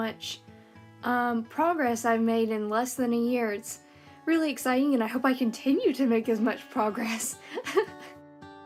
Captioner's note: laughter